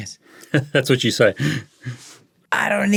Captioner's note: chuckling